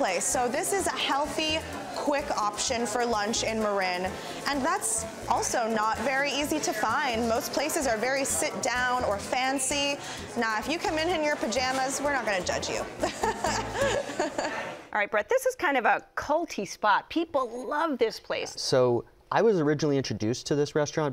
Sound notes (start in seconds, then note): 13.0 laughs